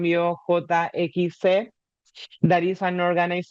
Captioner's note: speaking in Spanish